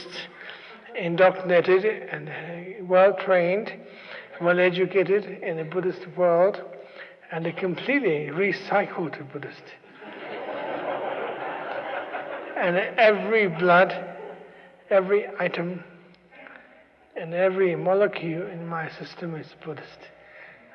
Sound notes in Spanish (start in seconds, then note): 9.8 Risas